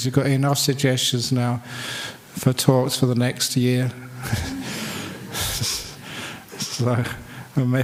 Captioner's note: laughs